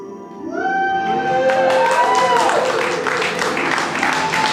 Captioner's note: applause